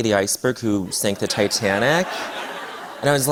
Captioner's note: laughter